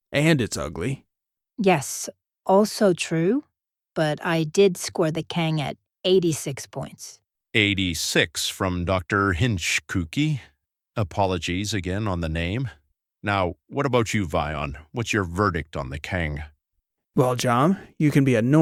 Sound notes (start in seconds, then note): none